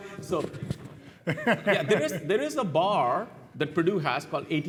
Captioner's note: laugh